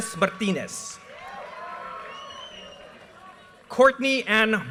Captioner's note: audience cheers and applause